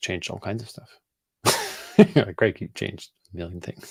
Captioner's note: laughs